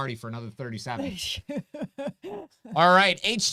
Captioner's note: chuckles